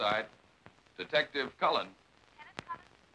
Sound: on phone

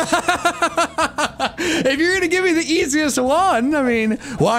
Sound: laugh

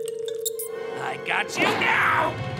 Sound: squeaks

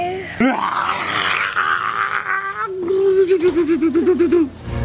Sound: playful roaring

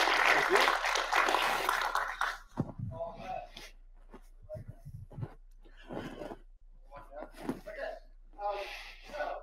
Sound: audience applauds

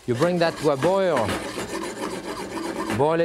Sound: pan scraping

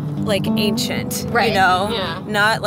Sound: murmuring in agreement

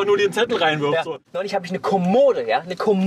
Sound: laughs

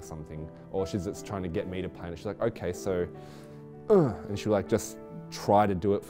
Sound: grunts

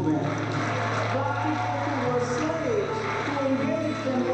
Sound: crowd applauds

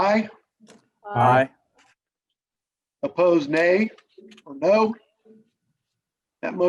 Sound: silence

